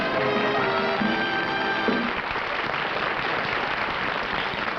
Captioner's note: applause